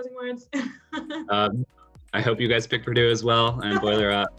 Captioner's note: laugh